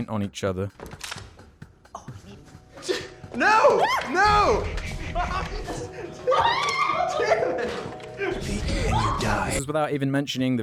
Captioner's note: laughter